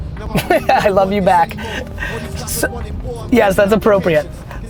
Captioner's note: Gary laughs